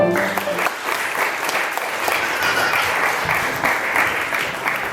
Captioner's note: audience applauds